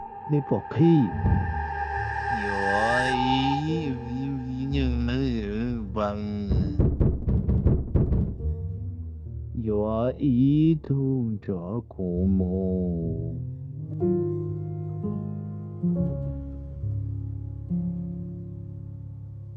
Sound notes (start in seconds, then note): 6.4 knocks intensifies